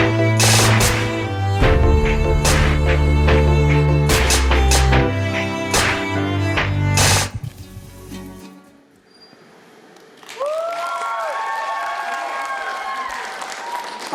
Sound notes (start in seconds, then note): 10.1 applause